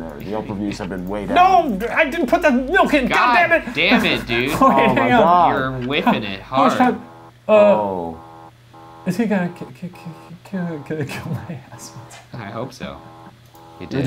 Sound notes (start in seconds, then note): 8.7 buzzer beeping